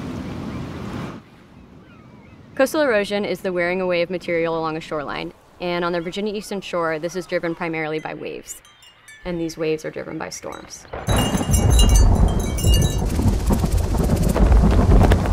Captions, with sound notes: Coastal erosion is the wearing away of material along a shoreline. And on the Virginia Eastern Shore, this is driven primarily by waves, and these waves are driven by storms. [THUNDER]